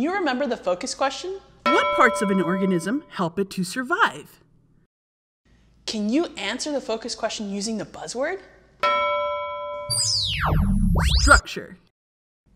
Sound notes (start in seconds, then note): 1.6 ding; 8.8 ding; 9.9 magical sound